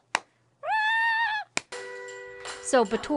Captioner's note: clapping